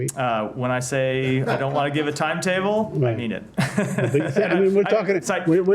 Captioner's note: laughter